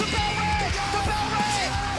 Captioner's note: bell